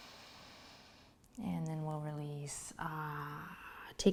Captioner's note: sighs